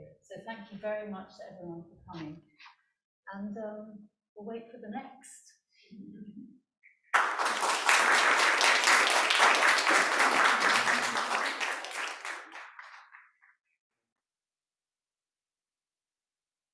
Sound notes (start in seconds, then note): 7.1 crowd applause